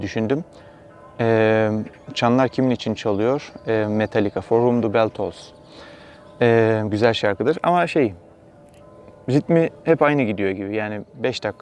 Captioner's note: church bell starts to ring